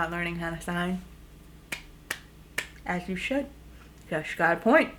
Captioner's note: clapping